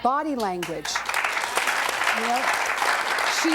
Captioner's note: audience clapping